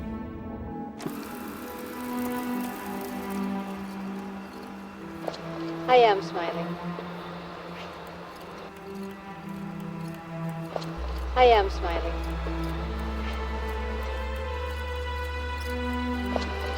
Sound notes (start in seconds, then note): 0.6 film reel ticking; 12.8 light dramatic music